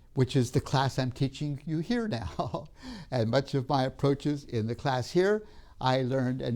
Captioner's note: laughs